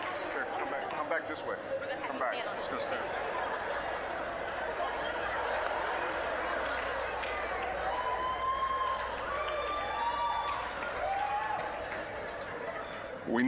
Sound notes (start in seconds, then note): 2.8 audience laughing; 7.5 general chatter; 7.5 scattered cheering